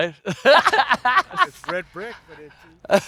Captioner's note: laughs